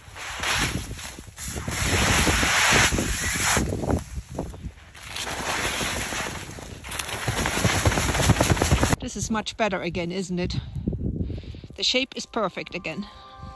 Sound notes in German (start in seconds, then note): 0.0 Geräusch von Schneefegen; 5.0 Geräusch von Schütteln des Zeltes